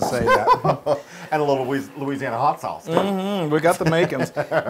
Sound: laugh

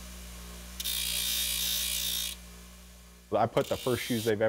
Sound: machine whirring

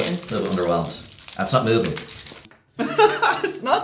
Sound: laughs

